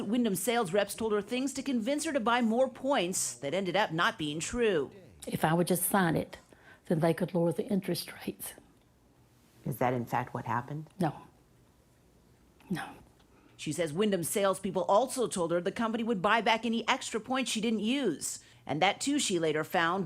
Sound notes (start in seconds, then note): none